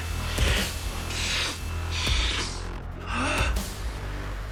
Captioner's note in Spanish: Inhala